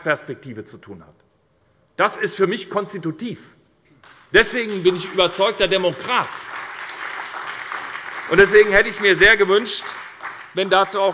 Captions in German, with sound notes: zu tun hat, ist für mich konstitutiv. Deswegen bin ich überzeugter Demokrat. [Beifall bei der SPD] Deswegen hätte ich mir sehr gewünscht, dass dazu seitens der Landesregierung